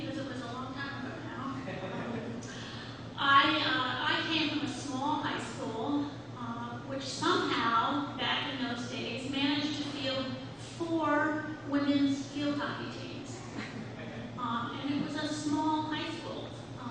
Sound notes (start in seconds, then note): 1.6 audience laughs